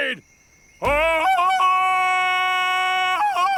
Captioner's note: ululating